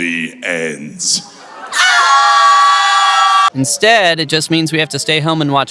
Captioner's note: screaming